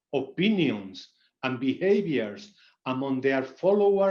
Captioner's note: none